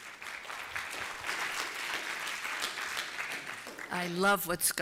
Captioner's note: applause